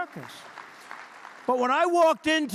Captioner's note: applause